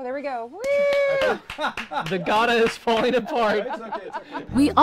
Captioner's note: clapping, laughing; laughing, clapping